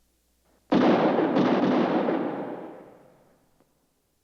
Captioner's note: guns firing